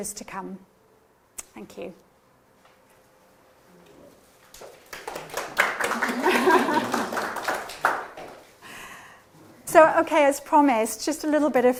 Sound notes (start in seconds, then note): 3.7 chuckles; 4.5 applause